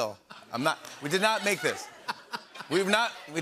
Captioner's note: laughter